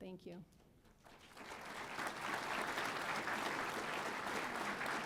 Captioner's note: audience applauding